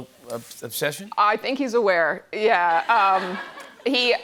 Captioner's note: laughter